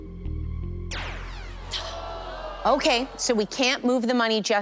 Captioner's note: zap